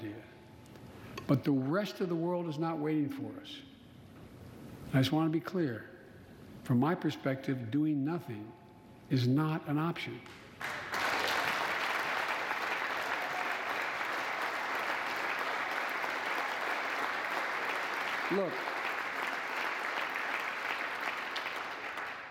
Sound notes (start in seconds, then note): 10.2 applause